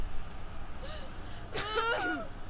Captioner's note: woman screams